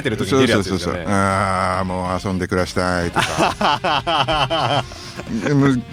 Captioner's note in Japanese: 笑い